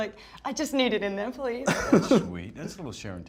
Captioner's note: laughs